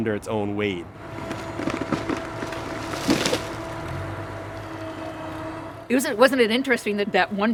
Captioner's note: crashing; splintering